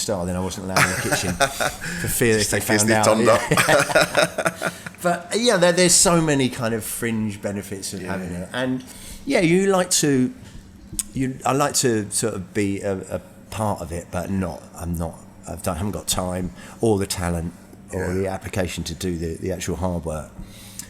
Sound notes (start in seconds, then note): 3.3 laughing